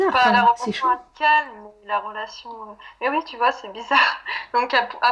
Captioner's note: laughs